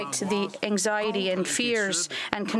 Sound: speaking French

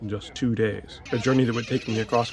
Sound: birds chirping

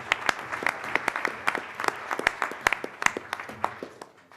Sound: applause

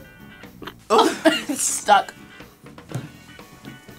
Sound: laughs

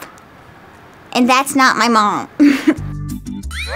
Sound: chuckles

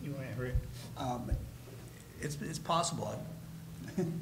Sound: laughing

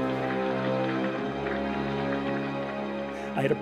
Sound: applause

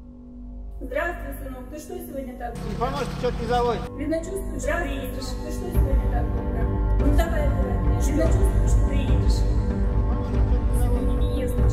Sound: hear mother and stranger voices

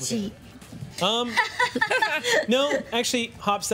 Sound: laughing

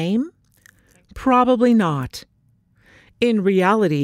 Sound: short pause

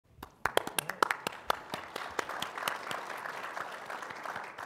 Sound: audience applauding

